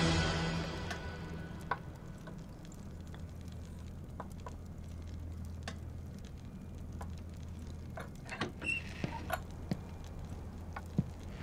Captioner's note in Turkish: Yemek Sesİ